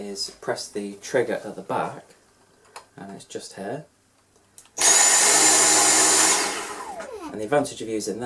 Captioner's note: woosh sound of the vacuum on